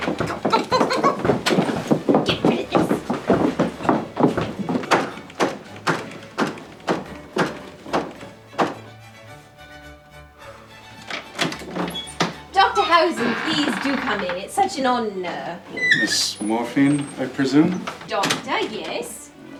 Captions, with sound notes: Go! Go go go go go! Get rid of this! [Loud knocking continues] Dr. Hausen, please do come in! It's such an honour... Miss...Morphine, I presume? Doctor, yes.